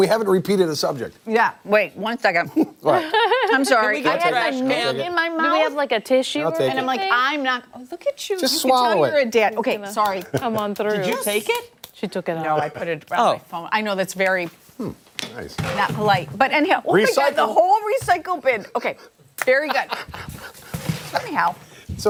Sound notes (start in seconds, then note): 8.2 laughter